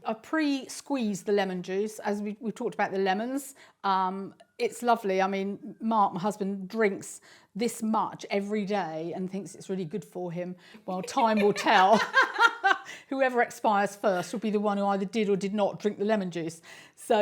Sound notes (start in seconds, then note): 10.9 laughs loudly; 11.0 laughs